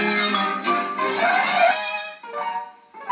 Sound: Screech

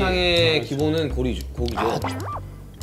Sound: pit-a-pat

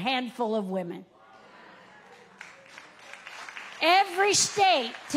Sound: audience claps

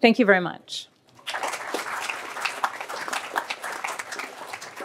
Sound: applause

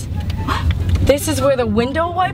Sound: gasp

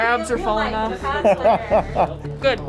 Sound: laughs

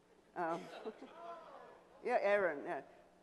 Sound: audience ohs

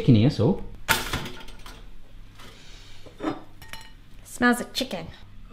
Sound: toaster popping

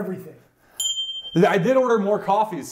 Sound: audio bells

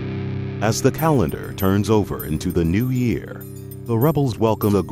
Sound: voiceover

